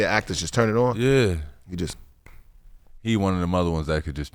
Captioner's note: snaps lightly